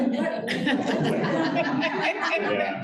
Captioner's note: laughter